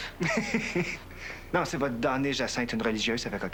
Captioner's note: Rire